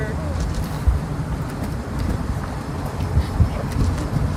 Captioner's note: wind whooshing